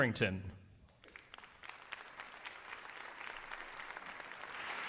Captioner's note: applause